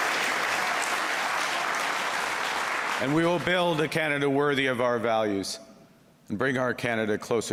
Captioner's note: cheers and Applause; applause